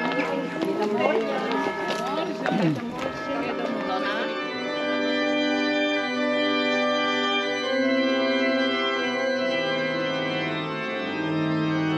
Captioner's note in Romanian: Aplauze